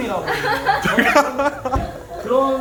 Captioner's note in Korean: ㅎㅎㅎㅎ